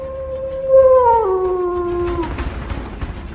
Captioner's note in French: cri de loup